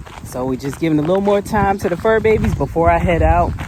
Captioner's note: none